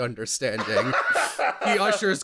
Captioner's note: laughter